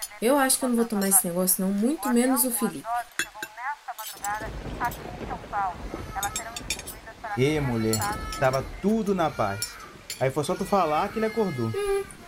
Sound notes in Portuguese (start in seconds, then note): 5.5 Felipe começa a chorar no quarto